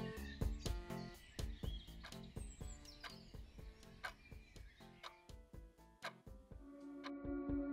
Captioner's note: clock ticking